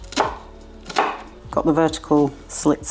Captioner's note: chop chop chop